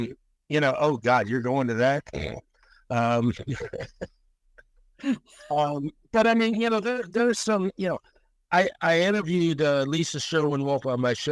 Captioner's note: snickers